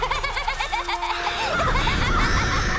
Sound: laughing; cawing; screaming

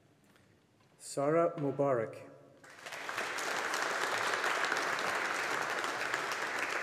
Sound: audience applauding

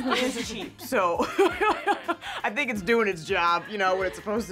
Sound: laughing; laughs

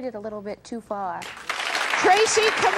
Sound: applause

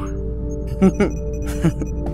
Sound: chuckles

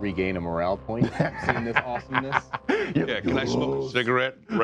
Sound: laughing

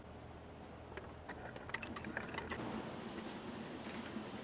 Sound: rattling

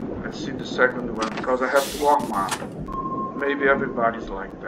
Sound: sound of submarine

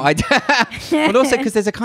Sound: laughs loudly

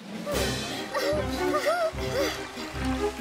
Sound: panting

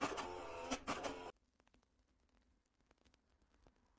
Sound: projector buzzing

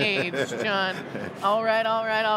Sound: laughing

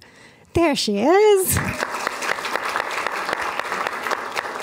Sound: applause

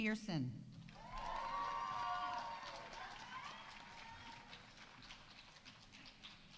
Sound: audience cheering; audience applauding

